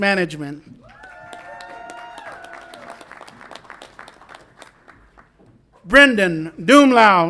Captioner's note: audience applauds and cheers